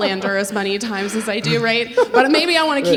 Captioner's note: laughing